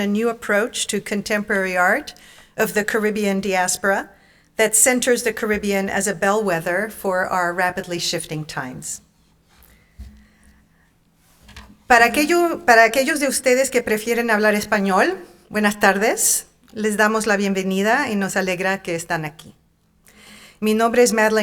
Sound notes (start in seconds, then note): 11.7 speaking in Spanish